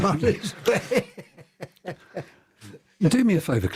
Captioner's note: laughter